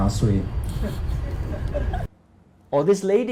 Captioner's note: laughter